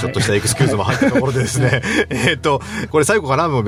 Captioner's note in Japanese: 笑い